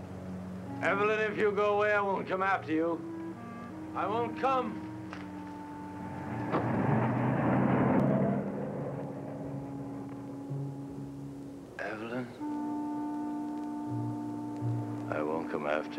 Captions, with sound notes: Evelyn, if you go away, I won't come after you. I won't come! (engine revving) Evelyn, I won't come after you.